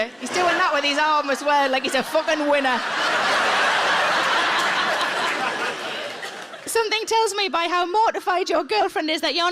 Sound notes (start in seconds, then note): 3.5 audience laughs